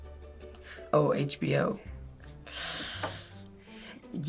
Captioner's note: sucks in breath